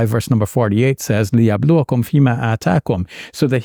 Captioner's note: speaking in Arabic